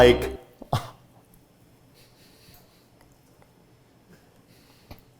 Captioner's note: struggles quietly